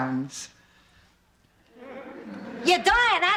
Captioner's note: silence